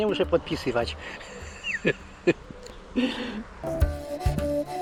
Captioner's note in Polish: śmiech